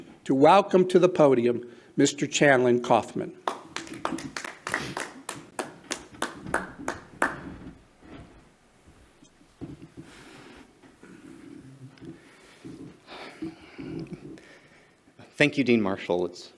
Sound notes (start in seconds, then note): 3.4 clapping